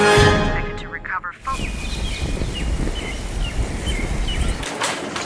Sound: birds chirping

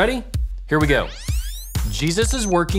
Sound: electronic whirring

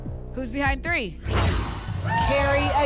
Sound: whoosh

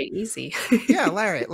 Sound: laughs

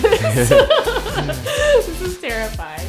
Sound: laughter

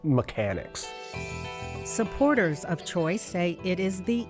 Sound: voiceover

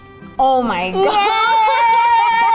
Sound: laughs

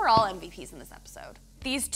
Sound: hand slapping

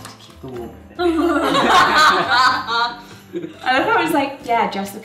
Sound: laughing

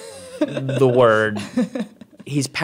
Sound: laughing

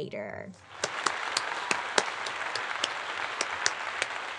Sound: audience applauding

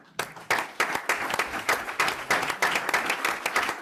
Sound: group applauds

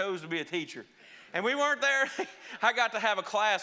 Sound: chuckles

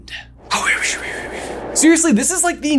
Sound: mimicking wind blowing

